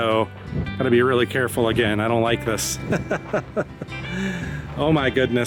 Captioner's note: laughter